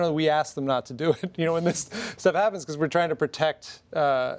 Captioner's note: laughs